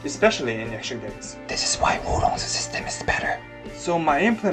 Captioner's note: whispering